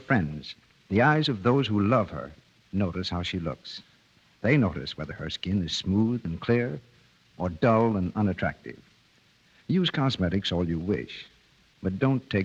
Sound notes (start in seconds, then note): none